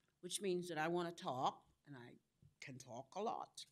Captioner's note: none